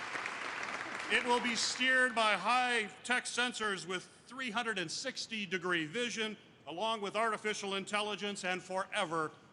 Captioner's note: applause